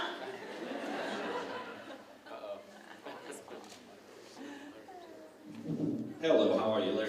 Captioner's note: laughter